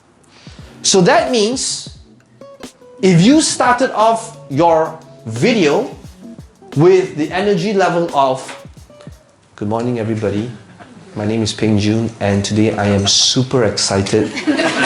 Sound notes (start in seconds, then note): 9.7 quietly and unimpressed